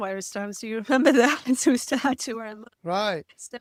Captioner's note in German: lacht